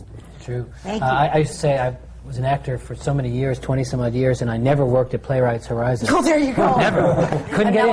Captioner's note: laughter